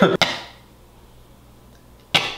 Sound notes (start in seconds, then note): 0.1 laughing; 1.4 coughing